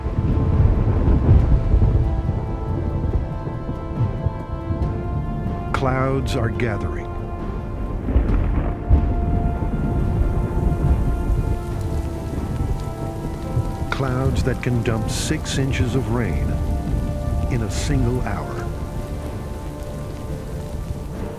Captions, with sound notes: (thunder rumbling) Clouds are gathering. (rain pattering) Clouds that can dump six inches of rain in a single hour.